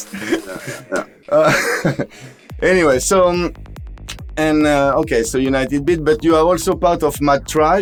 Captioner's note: laughters